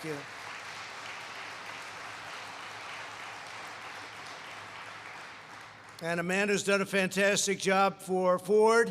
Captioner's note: applause